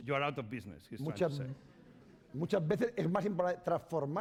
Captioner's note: speaking spanish